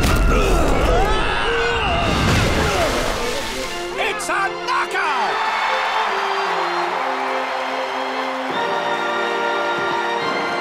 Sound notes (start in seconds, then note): 0.0 screaming; 2.0 splashing; 4.8 audience cheering